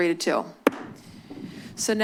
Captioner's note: gavel tap